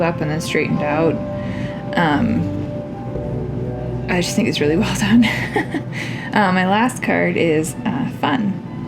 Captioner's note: laugh